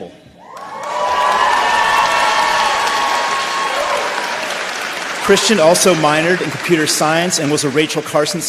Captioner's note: applause